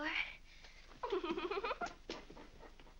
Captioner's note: Mary giggles